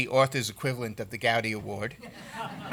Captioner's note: laughter